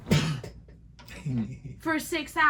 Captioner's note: laughs